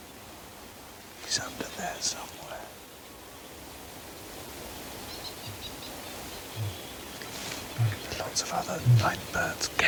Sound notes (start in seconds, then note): 4.9 birds chirping